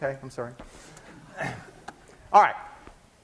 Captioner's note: class laughing